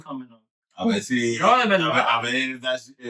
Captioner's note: speaking In Foreign Language